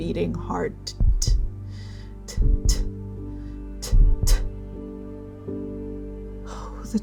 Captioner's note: heart beating